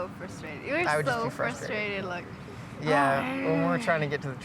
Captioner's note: growling